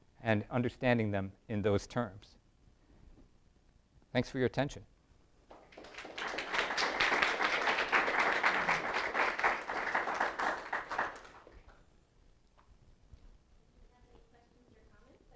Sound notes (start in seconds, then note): 5.4 applause